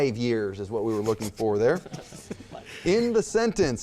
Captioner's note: laughter